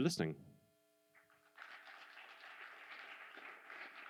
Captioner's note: applause